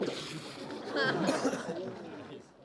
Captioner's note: laughter